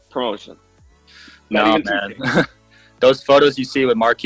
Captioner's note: laughs